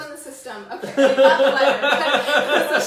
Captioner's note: laughs